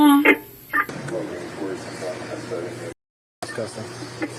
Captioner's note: radio chatter